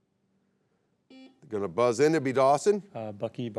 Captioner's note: buzzer beeps